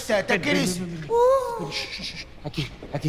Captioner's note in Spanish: Quejidos